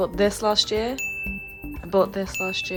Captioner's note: bell dings